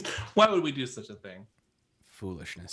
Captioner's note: laughs